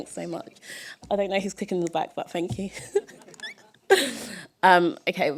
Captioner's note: laughter